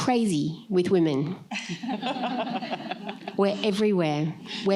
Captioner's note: laughter